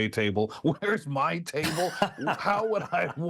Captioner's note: laughs